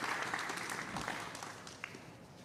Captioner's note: applause